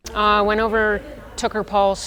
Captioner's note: people chattering distantly